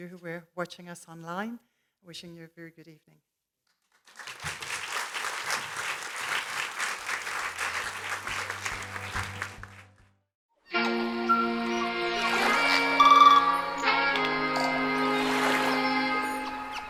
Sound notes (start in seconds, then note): 3.8 clapping; 10.9 birds chirping; 15.2 waves splashing